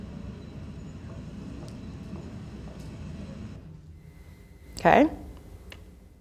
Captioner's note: footsteps tapping